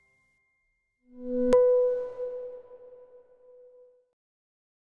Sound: ambient tone

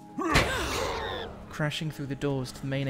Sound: crash; surprised gasps

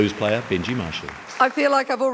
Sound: audience clapping

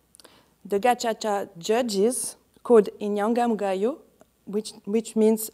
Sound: speaking in foreign language

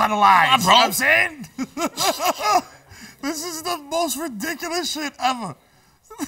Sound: laughs; laughs

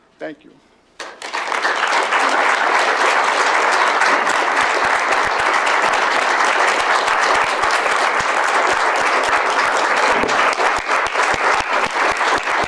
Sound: applause

